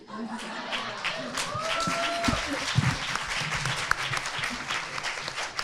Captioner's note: audience laughing and applauding